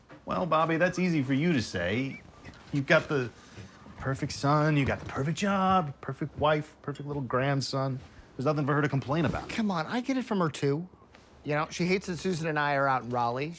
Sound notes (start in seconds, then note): none